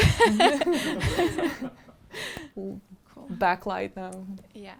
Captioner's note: all laughing